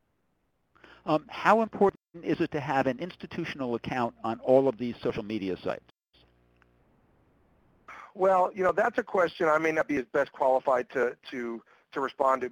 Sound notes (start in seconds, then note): 1.0 voiceover; 8.1 voiceover